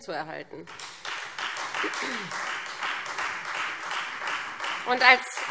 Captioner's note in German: Beifall Freie Demokraten